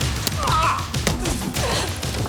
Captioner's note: Jodie grunts; Graham groans; upbeat suspenseful music